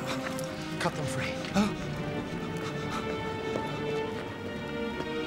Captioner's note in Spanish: discurso en otro idioma